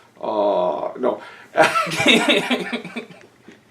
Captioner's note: giggling